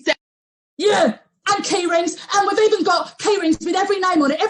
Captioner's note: shouts